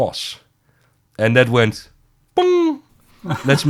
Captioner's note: mimics lightbulb